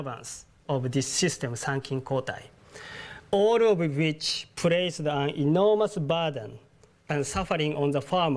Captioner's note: japanese